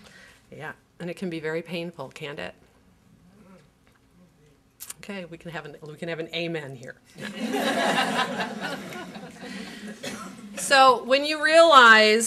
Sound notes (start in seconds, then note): 7.2 laughter